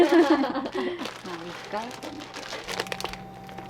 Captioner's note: laughter